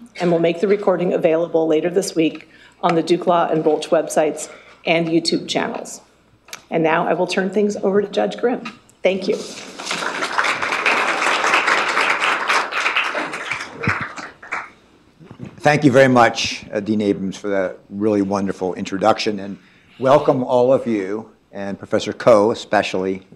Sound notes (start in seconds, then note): 9.7 audience applauding